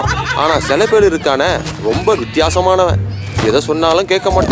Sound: characters laughing; yelling in background; narration in foreign language

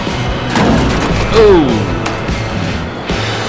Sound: crash sound

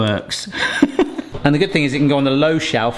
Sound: laughs

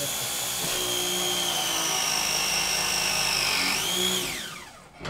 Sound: electric wrench whirring

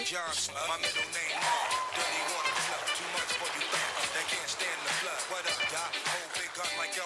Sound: sound of applause from audience

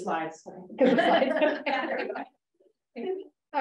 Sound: laughter

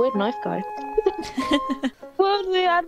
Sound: laughs

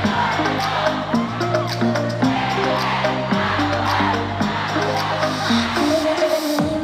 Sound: loud cheer

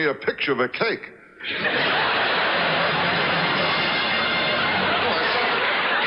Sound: audience laughs; orchestra riffs; audience applauds

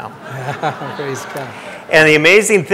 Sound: audience laughing

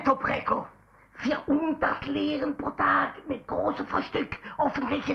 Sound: German language

